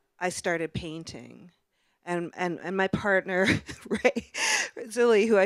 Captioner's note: chuckles